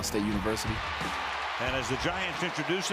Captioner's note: cheering